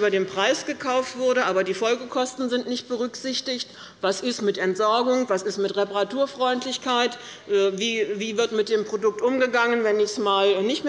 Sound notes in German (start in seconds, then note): none